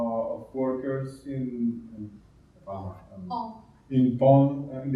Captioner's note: speaking in Spanish